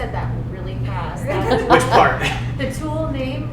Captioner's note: audience laughing